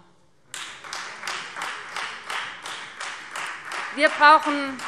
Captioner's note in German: Beifall Freie Demokraten